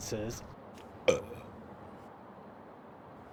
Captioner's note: Belch